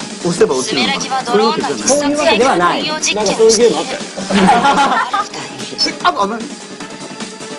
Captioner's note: drone